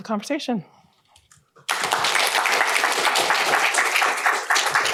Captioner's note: applause